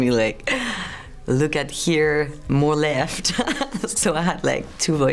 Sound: laughs

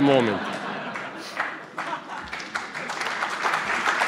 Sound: applause

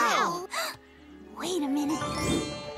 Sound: gasps

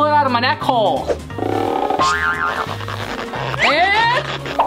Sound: cartoonish stretching

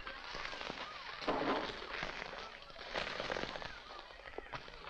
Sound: wood falling

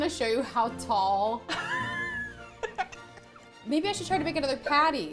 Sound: laughs

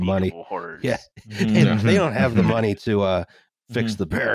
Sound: laughter

